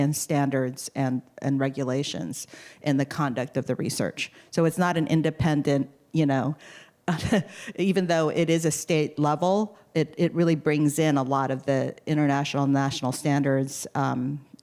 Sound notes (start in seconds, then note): 7.1 laughter